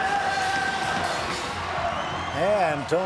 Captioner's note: scatting; crowd chants "Tony! Tony!"; cheering